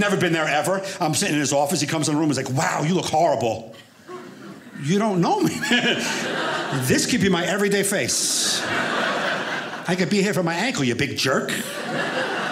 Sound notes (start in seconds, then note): 7.6 audience laughing